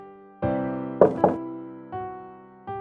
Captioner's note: knock at door